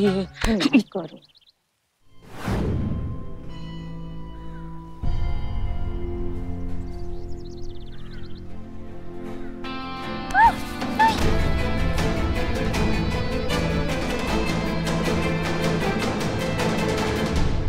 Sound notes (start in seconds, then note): 10.3 gasps; 11.8 dramatic music